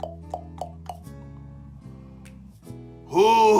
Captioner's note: knocking